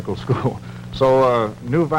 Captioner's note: chuckles